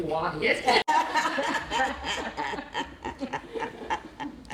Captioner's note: laughter